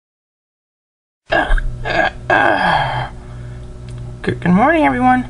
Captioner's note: everyone yawning